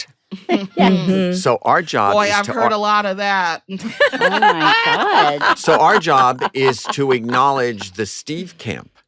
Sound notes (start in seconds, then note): 3.8 laughter